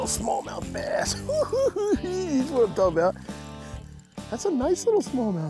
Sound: giggles

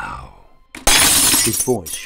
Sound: crash

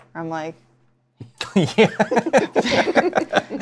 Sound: laughs; laughter

